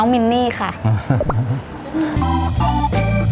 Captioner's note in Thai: หัวเราะ